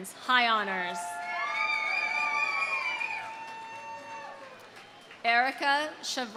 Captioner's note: audience cheering; audience applauding